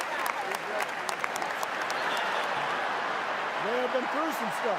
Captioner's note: cheers; applause